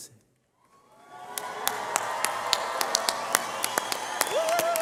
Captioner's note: cheers